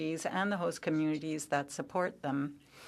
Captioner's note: speaking French